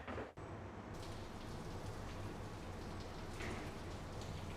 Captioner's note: water trickling